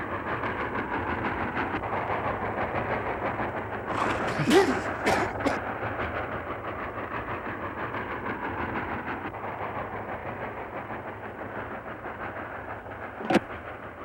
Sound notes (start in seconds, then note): 3.9 coughing